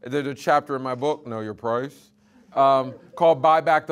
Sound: audience laughing

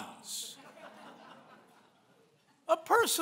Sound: laughing

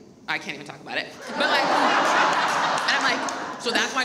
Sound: audience laughs

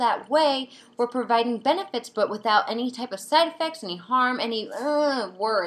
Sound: groans

